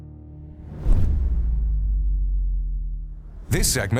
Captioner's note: graphics whooshing